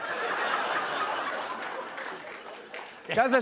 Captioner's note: laughter